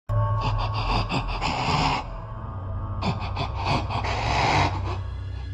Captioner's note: Regenerator Breathing Noises